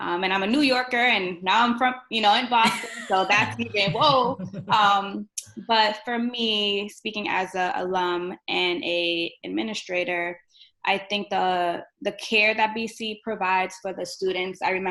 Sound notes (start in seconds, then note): 2.6 laughter